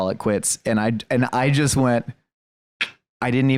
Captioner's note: clicks tongue